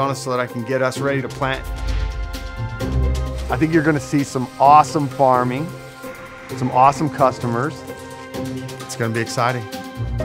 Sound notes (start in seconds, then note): 1.8 video whooshing; 2.7 light playful music continues